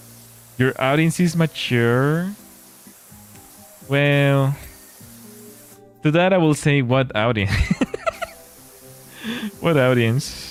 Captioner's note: laughter; gasps